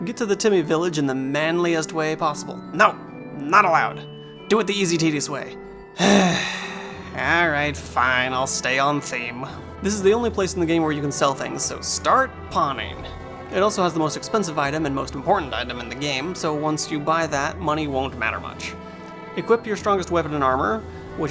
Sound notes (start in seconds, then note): 5.9 sigh